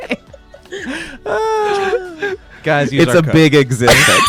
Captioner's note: laughs